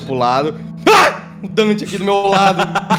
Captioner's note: Arthur screams